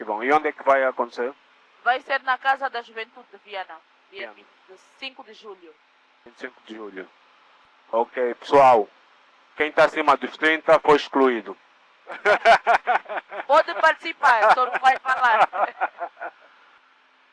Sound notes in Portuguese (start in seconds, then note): 12.0 risadas